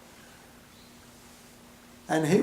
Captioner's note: pause